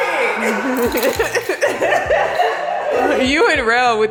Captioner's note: both giggling